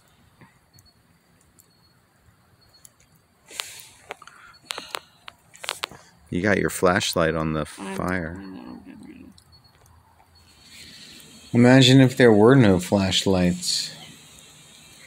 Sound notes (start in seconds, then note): 4.3 sigh